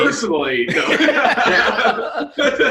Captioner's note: laughs